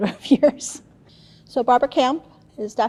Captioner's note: chuckles